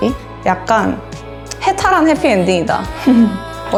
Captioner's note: laugh